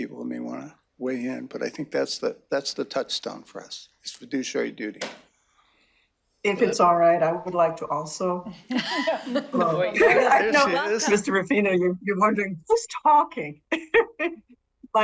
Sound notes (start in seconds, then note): 10.3 laughing